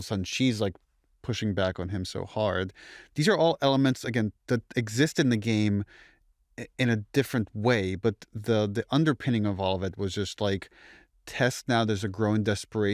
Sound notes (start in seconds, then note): none